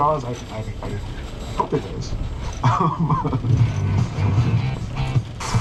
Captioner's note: chuckling